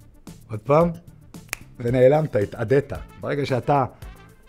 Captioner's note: snap